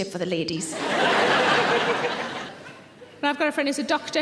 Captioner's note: audience laughing